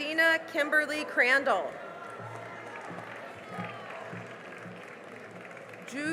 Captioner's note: cheering and applause